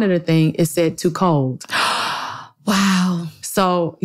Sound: gasps

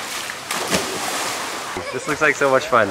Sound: water splashes

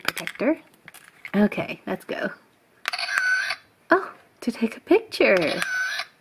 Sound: camera click; camera clicks

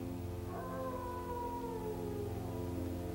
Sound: howling

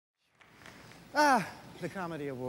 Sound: sigh

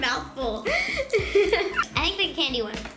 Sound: giggles

